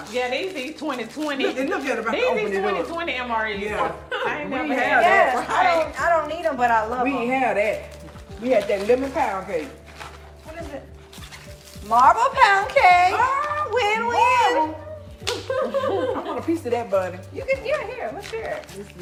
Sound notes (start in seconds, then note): 15.1 hands smacking